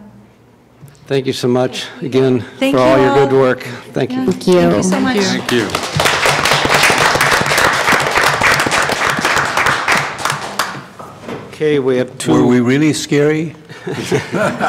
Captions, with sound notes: »: Thank you so much. Again, thank you for all your work. »: Thank you so much. (Applause) »: Okay. We have two.